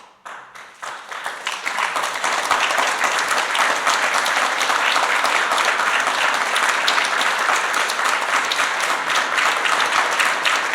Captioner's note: applause